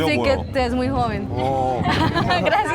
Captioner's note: giggles